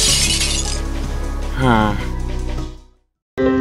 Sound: sighs

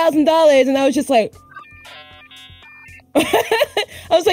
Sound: 24k modem dial-up sounds; laughs

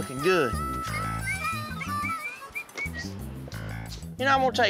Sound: door opens, whistling

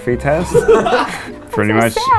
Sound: laughing

